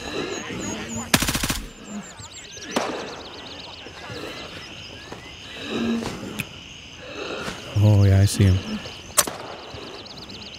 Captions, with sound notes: You hate to see it. [gunfire] Oh yeah, I see him.